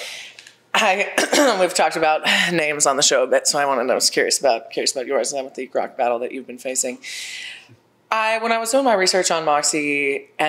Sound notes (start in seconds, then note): 0.6 throat clears